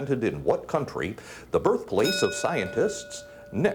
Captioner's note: bell dinging